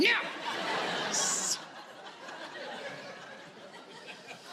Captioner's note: audience laughing